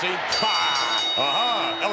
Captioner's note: bell rings